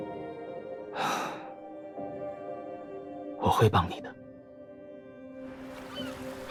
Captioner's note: sigh